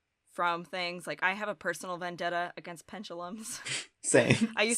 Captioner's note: chuckles